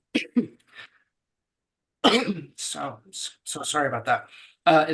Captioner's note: coughing